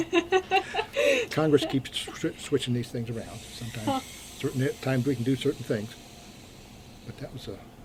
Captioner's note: BOTH laugh